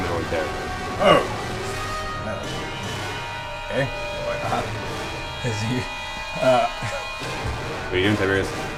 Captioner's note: laughs